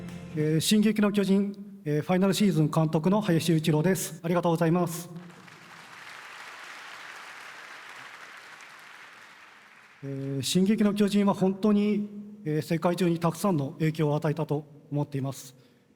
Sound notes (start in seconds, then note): 5.1 applause